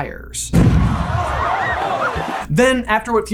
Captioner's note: cannon explodes; crowd gasps and cheers